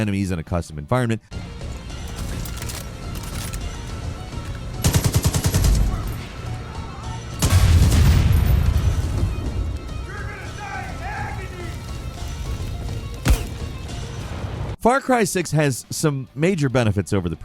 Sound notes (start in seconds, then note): 2.2 suspenseful music; 4.8 gun firing; 7.4 bomb booming; 13.1 suspenseful music